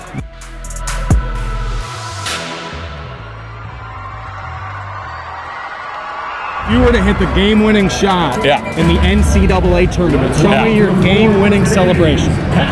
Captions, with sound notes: (upbeat music) (crowd cheering) - If you were to hit the game winning shot in the NCAA tournament, - Yeah. show me your game winning celebration.